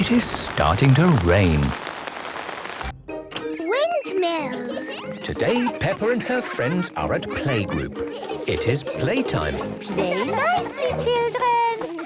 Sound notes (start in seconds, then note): 2.2 downpouring